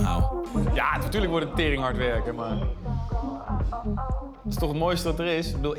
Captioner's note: speaking in foreign language